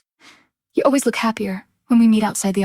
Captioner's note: female voice 1